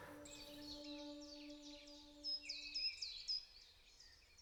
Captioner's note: birds singing